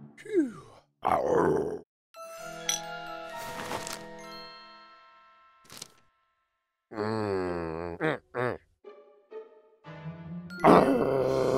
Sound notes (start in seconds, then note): 0.2 growl; 2.2 intriguing music; 9.9 growling